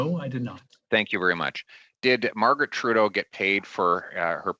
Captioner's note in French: voix de l'interprète